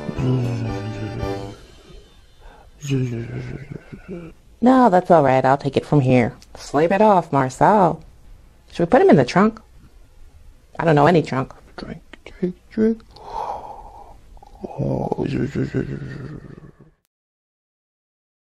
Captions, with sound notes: Zzz-zzz-zzz-zzz... Zzz-zzz-zzz-zzz... No, that's all right - I'll take it from here. Sleep it off, Marcel. Should we put him in the trunk? I don't know - any trunk. Drink, drink, drink... (Yawning.) Zzz-zzz-zzz-zzz...